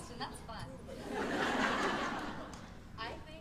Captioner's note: laughter